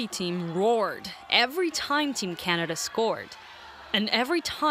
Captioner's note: crowd noise; cheers and applause